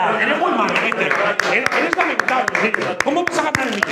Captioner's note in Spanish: aplauden